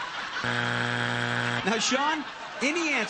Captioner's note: buzzer